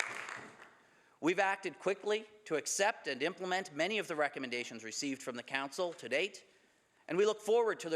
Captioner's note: some Applause